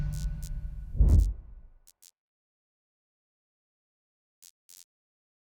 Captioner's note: neon buzzing